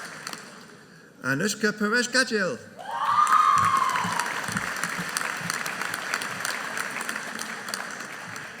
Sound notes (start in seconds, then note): 2.8 audience cheering